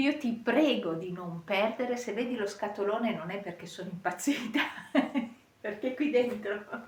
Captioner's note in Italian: risate